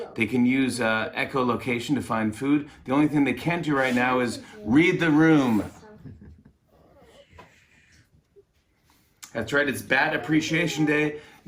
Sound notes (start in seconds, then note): 5.8 chuckles